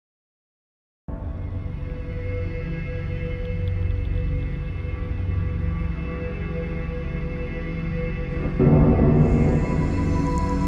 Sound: sound of haunted rainy street

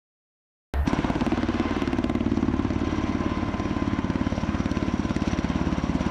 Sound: helicopter

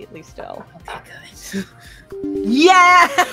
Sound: whispers

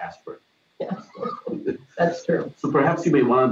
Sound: chuckles

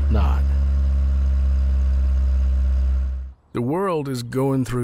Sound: car engine roaring

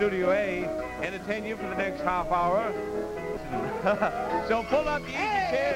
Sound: chuckles

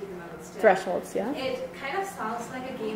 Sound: voiceover

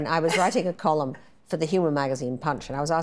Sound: Tina chuckles

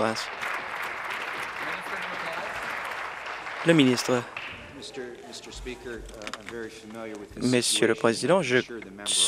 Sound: applause

